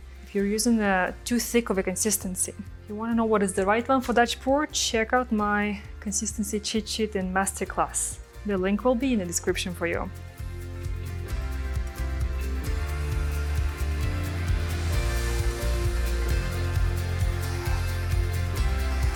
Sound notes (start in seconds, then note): 11.0 lively music; 13.0 hair dryer whirring; 13.0 lively music